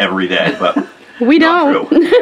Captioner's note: laughing